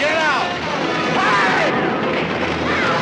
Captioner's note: yells